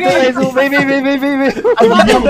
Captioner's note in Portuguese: risos